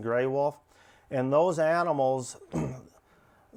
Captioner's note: clears throat